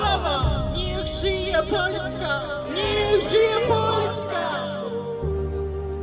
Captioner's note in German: auf Ukrainisch; auf Polnisch